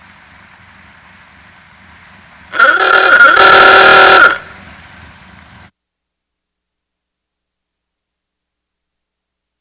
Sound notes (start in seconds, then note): 2.4 horn honking